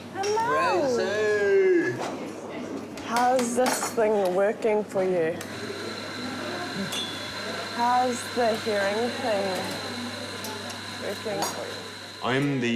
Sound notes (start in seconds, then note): 5.4 coffee grinder whirrs